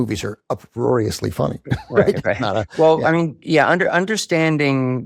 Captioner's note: chuckles